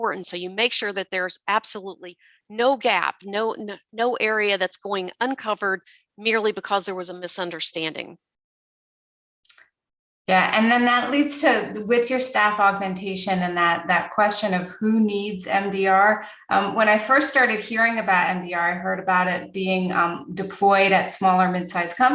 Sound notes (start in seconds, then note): 9.5 mouse clicking